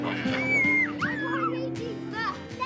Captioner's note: squeals